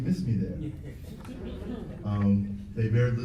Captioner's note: laughs